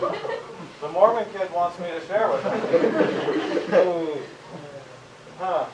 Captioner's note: laughter; laughter